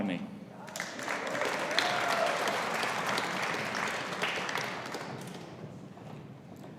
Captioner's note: audience applauding; audience cheering